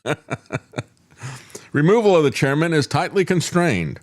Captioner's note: laughs